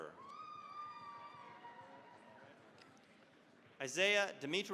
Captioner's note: cheering, applause